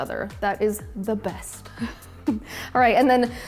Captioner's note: laughs